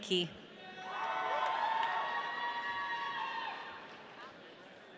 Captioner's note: audience cheering